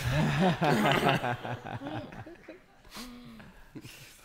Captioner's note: laughing